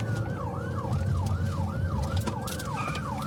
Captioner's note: siren wailing